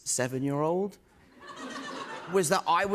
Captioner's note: laughter